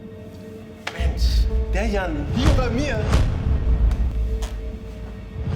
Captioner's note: electricity swooshes